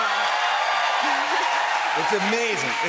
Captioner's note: cheers and applause